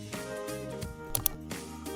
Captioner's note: mouse Click